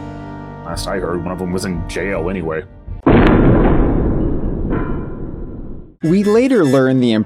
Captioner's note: metal jail bars slam shut